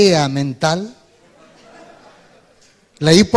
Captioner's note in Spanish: Risas